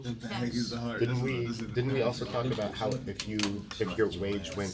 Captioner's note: students murmur